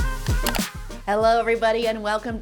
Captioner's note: upbeat music; mouse clicking